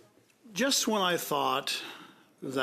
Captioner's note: speaking French